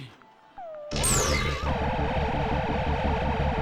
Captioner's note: electronic blips